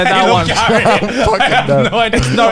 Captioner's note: laughing